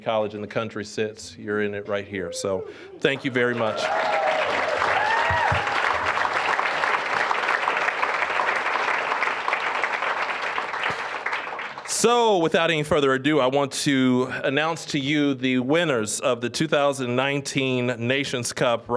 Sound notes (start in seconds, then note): 3.1 applause, cheering